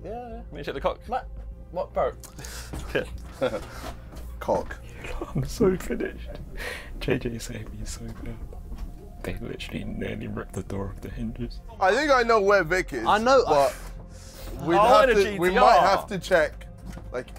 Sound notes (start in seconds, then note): 2.8 laughs